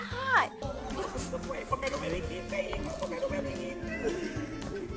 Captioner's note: people laughing and talking